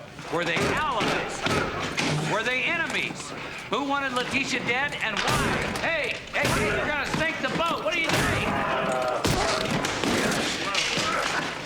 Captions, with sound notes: Were they allies? Were they enemies? Who wanted Lateesha dead and why? Hey! You're gonna sink the boat. What are you doing? (Eldon screams) (Eldon grunts)